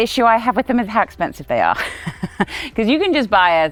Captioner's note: laughs